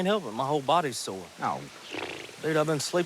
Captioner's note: blows raspberry